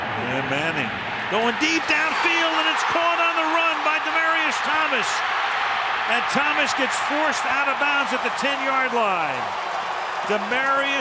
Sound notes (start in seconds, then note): 5.6 cheering